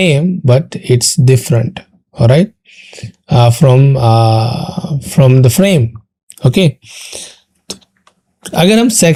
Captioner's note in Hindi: नाक से की जाने वाली आवाज़